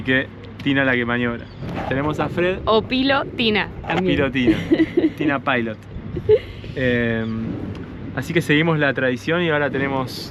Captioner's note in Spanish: risas